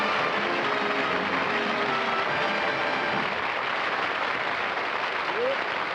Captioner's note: applause